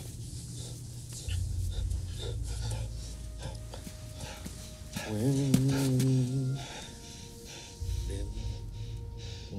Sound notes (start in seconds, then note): 2.5 men panting; 5.3 Dao chants in Vietnamese